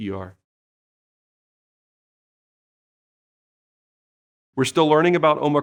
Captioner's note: silence